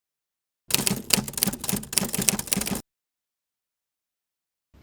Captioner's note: typewriter